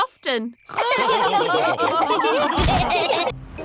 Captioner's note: all laughing